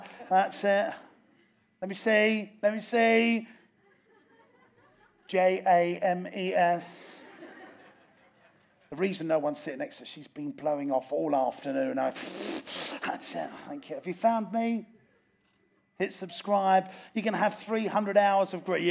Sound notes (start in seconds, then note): 3.7 audience laughs; 12.3 blows raspberry